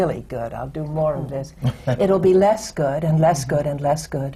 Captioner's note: laughs